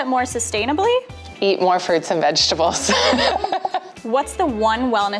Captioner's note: laughs